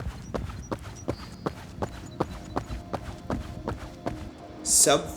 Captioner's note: footsteps